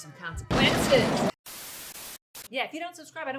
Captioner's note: bomb exploding